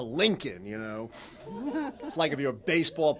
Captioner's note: laughter